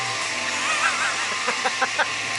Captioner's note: laughter